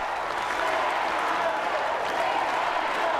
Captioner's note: cheering and applause